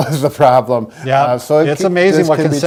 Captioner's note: chuckles